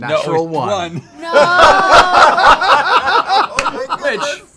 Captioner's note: laughter